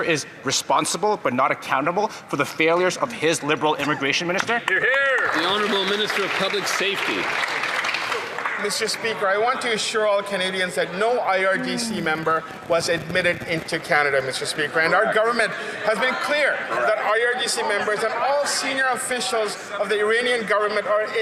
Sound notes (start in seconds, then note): 8.1 some Applause